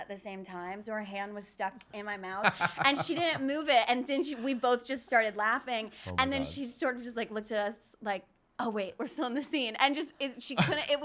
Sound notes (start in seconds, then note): 2.4 laughing